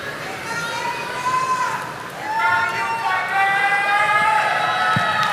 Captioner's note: audience applauding